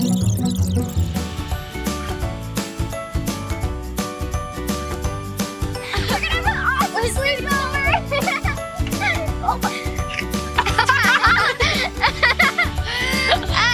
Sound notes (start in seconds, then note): 1.7 upbeat playful music; 7.9 laughs; 10.5 laughing